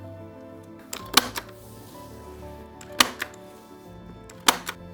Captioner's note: stapler clicking